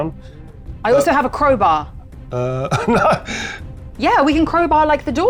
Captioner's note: chuckles